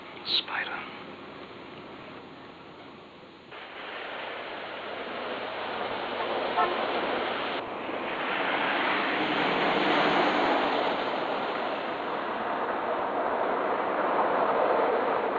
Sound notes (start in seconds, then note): none